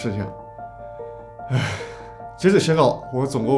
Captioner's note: sigh